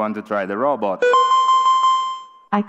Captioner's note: beeping